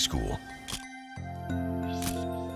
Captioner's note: camera shutter click